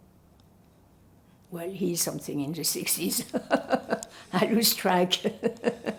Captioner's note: laughing; laughing